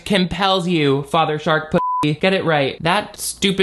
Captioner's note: beep